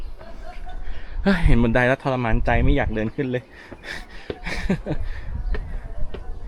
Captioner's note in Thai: เสียงหัวเราะ